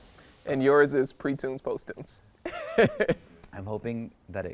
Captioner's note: laughs